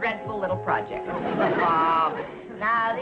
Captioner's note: audience laughing